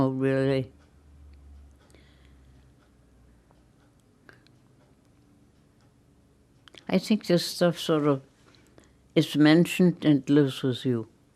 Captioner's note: pauses 6 seconds